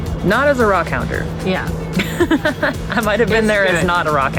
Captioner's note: laughs